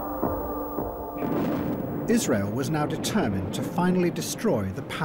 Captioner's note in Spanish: explosión